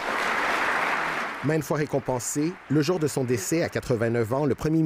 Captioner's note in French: applaudissements